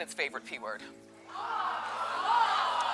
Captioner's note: audience gasping